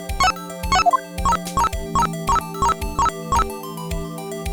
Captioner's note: beep. Beep. Beep. Beep. Beep. Beep. Beep; authenticating beeps